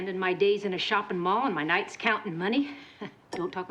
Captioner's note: chuckles